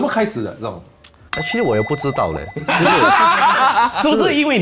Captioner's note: laughs